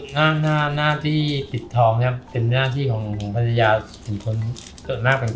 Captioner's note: speaking foreign language